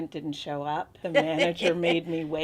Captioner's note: laughing